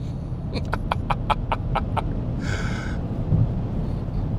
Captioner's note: man laughing